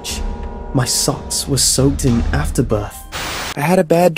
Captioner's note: static transition